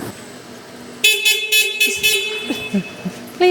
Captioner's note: horn beeping